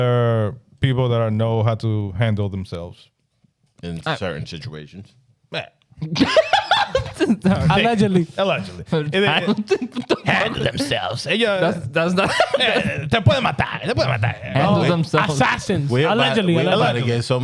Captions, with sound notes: They're people that know how to handle themselves. In certain situations. Yeah. (Laughing) Allegedly. Allegedly. (Speaking In Foreign Language) Handle themselves. Assassins, allegedly. Allegedly. Allegedly.